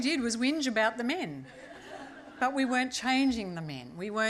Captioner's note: laughter